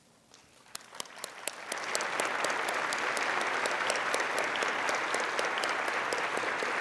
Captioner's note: applauding